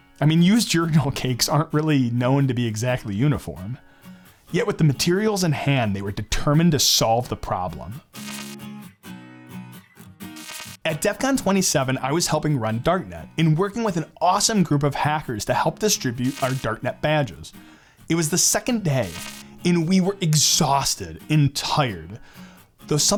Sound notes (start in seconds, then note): 8.1 electric buzzing; 8.8 upbeat music; 10.3 electric buzzing